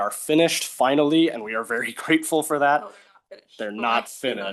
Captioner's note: chuckling